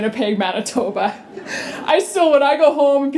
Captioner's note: laughter